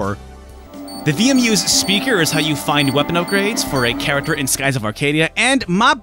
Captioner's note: VMU beeping